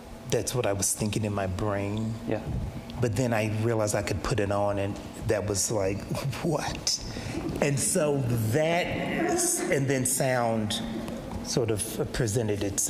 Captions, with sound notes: that's what I was thinking in my brain. - Yeah. - But then I realized I could put it on and that was like, what? (laughs) And so that, and then sound sort of presented itself.